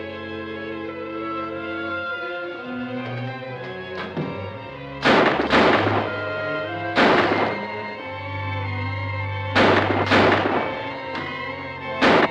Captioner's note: shots